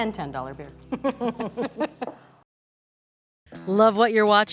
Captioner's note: both laughing